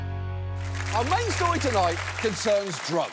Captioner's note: music fades; audience applauds